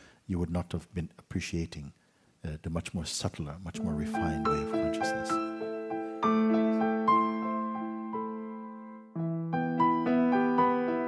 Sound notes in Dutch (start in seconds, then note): none